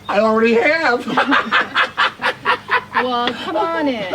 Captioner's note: laughs